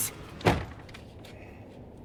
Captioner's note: door clicks shut